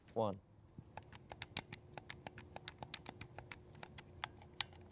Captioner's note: controller clicks